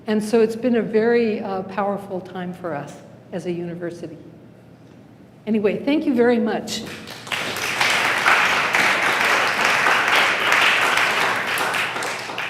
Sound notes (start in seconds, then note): 6.8 applause